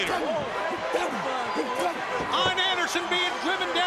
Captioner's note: crowd clamoring; blows thudding